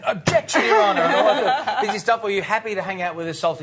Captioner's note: laughing